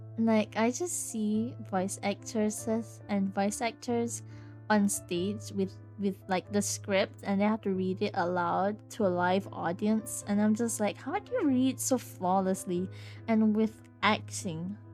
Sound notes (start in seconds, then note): none